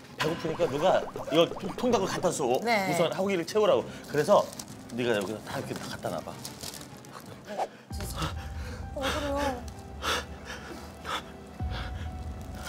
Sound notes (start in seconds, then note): 8.2 gasp